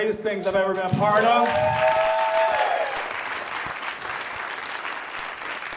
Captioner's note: audience cheers and applauds